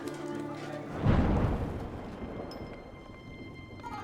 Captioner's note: thunder crashes